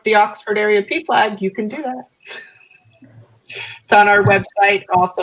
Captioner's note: laughter